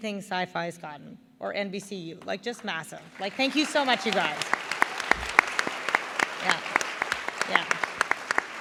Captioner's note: applause